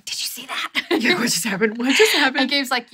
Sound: laughs

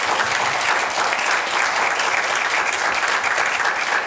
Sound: applause

